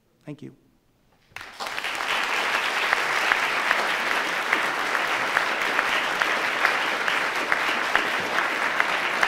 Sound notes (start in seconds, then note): 1.3 audience applauding